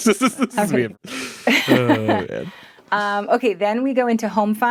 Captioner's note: group laughing